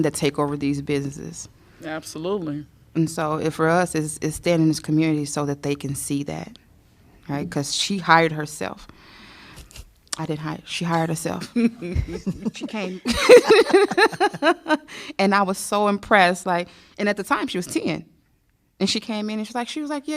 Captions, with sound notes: that take over these businesses. Yeah, absolutely. For us is stay in his community so that they can see that because she hired herself. I didn't hire her. She hired herself. [LAUGHTER] She came. [LAUGHTER]. I was so impressed and at the time she was seeing and she came in and she was like,